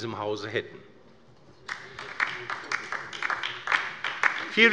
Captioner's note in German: Beifall bei der LINKEN